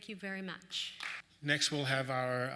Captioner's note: applause